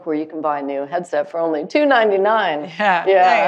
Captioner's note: laughing